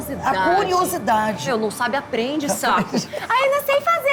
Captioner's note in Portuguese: voz aguda